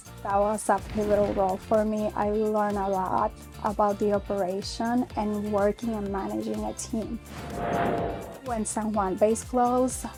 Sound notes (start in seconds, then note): 7.2 aircraft taking off